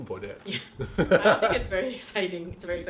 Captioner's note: laughing